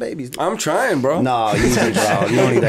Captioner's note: laughter